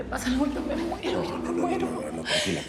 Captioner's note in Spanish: sollozos